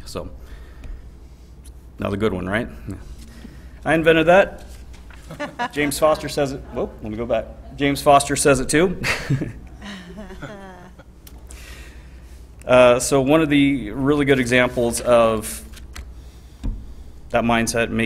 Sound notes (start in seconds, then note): 5.1 trustees chuckling; 8.9 chuckles